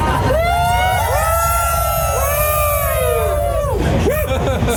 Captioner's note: cheering